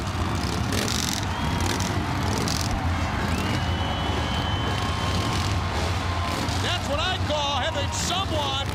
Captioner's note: crowd cheering